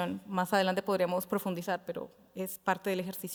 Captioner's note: speaking Spanish